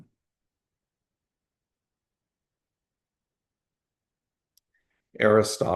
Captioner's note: pause